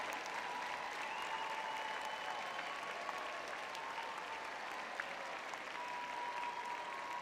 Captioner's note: crowd cheering